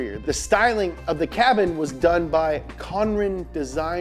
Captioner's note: none